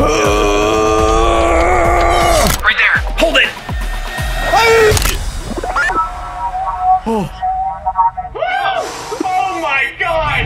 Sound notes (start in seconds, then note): 4.9 click; 5.4 transmission signal plays